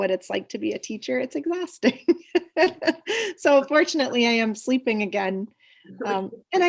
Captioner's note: laughs